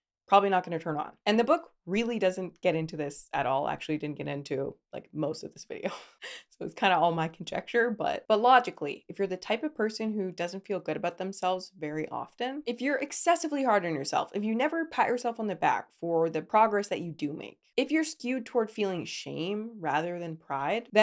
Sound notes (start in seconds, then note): 6.1 laughs